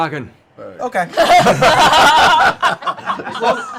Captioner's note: laughter